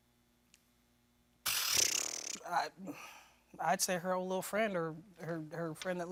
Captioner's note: blows raspberry